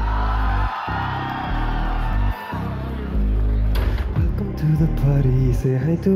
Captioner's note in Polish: Aplauz